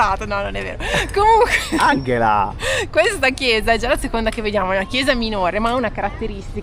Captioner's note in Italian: risate